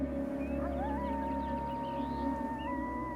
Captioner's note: coyote howling